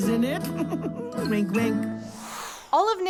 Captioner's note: giggling; air whooshing